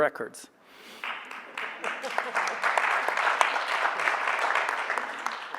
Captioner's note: audience applauding